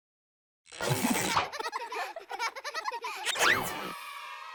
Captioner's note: children laughing